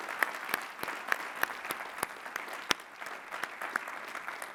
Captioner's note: applause